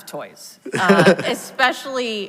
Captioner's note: laughs